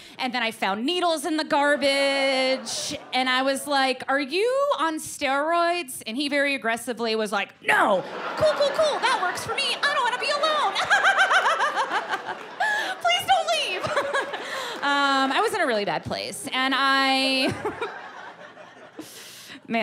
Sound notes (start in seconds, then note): 11.7 laughs crazily; 17.4 chuckles